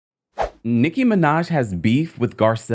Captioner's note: whooshing